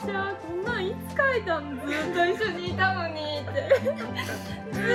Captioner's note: laughs